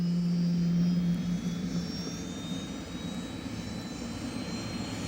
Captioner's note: helicopter rotor noise